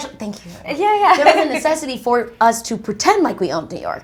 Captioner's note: laughs